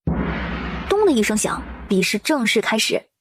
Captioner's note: thud